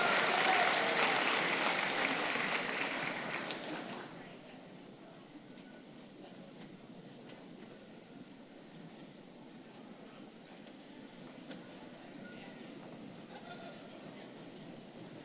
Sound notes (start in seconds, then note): 0.0 applause